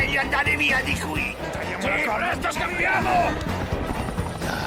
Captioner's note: freaks shouting